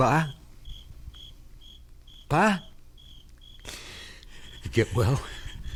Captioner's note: chuckles